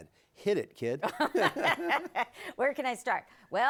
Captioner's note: both laughing